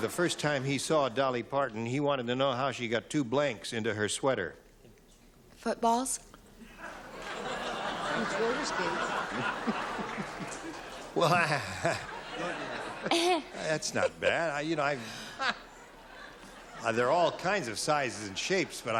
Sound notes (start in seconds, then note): 6.7 laughter